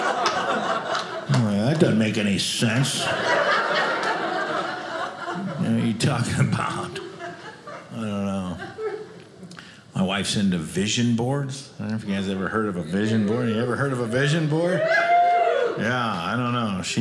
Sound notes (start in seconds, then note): 0.0 audience laughing; 2.7 audience laughing; 13.6 audience cheers